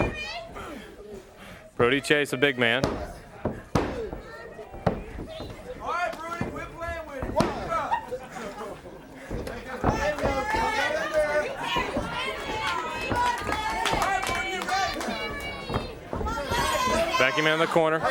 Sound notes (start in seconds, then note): 9.9 crowd chatter; 12.9 crowd cheering